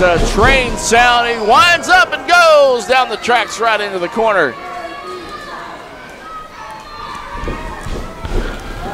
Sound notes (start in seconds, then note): 5.1 crowd cheering